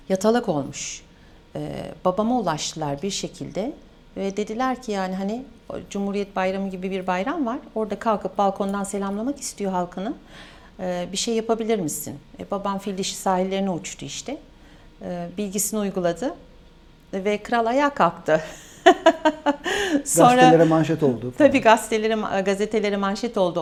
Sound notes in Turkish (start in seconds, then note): 18.6 kahkaha